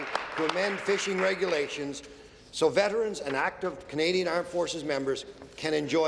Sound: some Applause

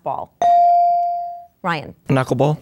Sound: dinging

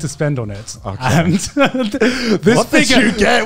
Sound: laughing

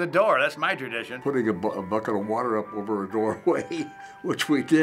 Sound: laughs

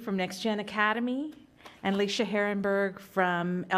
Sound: hand clapping

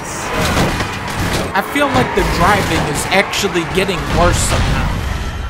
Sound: explosions, beeping throughout

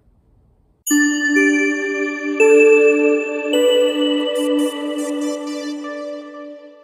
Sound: chimes

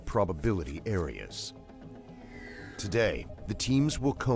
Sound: voiceover

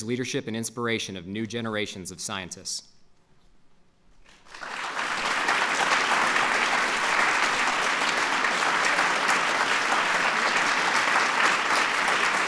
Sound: applause

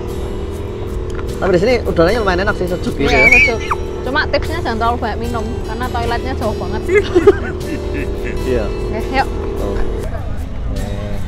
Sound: chuckles

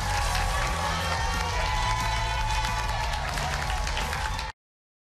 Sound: cheers and applause

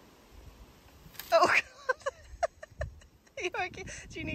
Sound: giggles

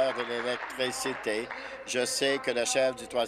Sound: applause

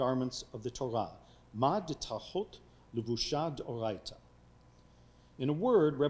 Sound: speaking foreign language

